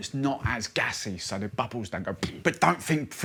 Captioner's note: popping noise